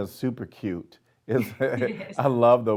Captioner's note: laughing